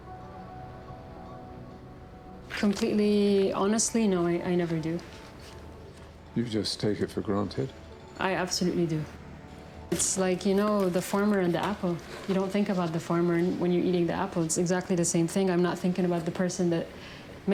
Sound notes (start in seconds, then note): 6.5 voiceover